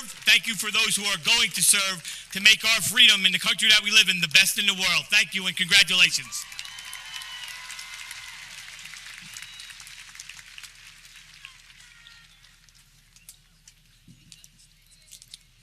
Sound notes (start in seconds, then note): 7.9 audience clapping